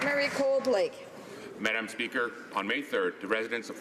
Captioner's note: applause